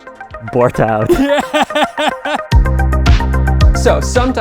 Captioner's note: laughing